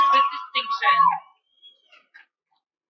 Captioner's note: cheering